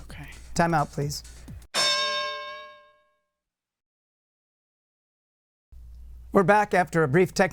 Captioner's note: bell